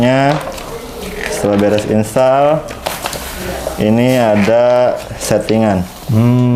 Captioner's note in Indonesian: suara kertas